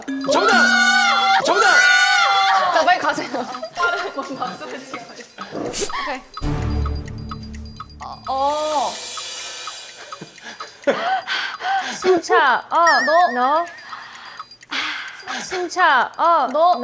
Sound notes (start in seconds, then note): 13.9 expressing oxygen through deep breathing